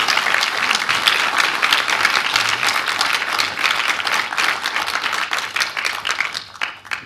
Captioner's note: applause